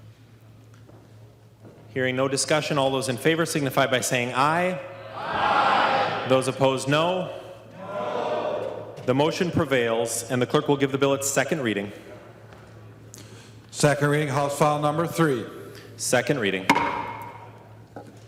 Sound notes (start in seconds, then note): 11.1 chorus of ayes